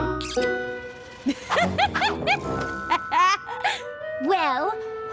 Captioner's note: laughter